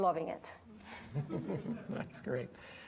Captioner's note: audience laughing